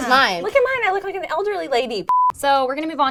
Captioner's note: beep